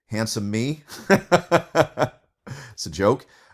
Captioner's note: professor laughing